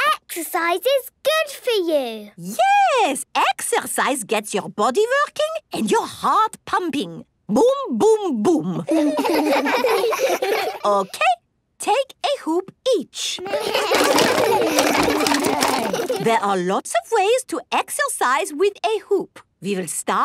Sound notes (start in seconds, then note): 8.8 laughs; 13.4 all laugh